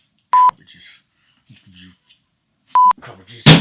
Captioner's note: beep